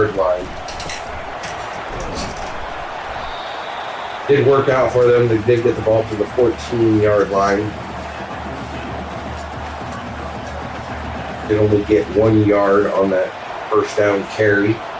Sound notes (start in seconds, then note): 1.2 crowd Noises; 8.1 crowd Noises